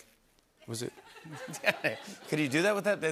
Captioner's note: laughter